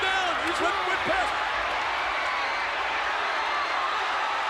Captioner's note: crowd cheering